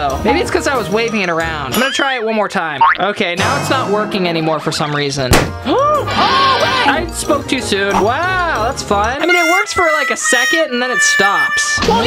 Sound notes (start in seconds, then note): 5.3 small boom; 9.2 failing music